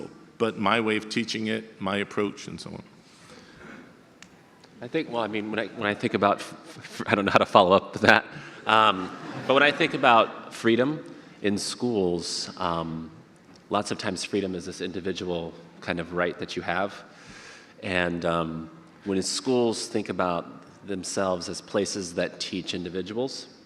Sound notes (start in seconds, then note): 8.0 audience laughter